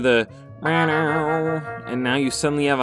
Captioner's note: TF2 notification alert SFX impression; TF2 notification alert SFX; TF2 notification alert SFX impression; TF2 notification alert SFX